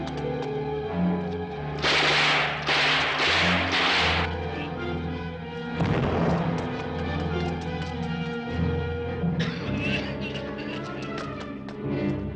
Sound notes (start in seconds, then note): 1.8 guns firing; 5.8 explosion booms; 9.4 men coughing